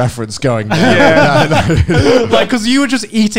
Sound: men laughing

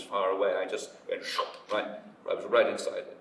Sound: imitates air whooshing

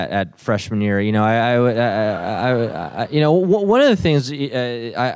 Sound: audience laughs

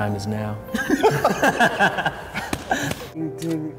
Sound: laughing

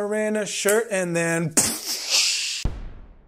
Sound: explosion

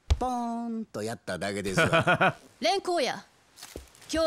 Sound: laughs

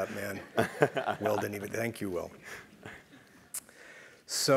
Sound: laugh

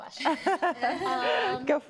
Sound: laughter

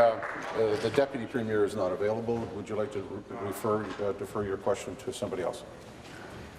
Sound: applause

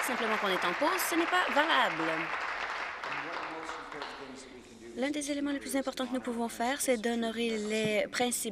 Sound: applause

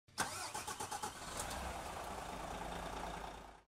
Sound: car engine

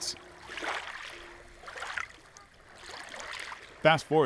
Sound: wave lapping

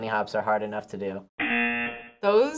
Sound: buzzer

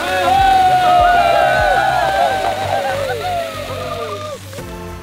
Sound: shouting with joy

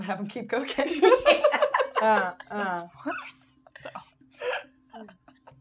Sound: gamers laughing

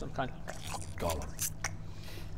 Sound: nom

